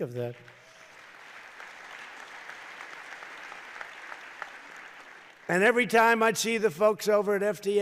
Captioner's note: applause